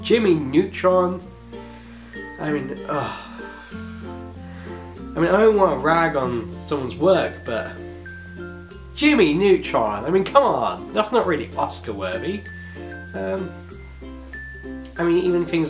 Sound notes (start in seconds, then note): 2.8 sighs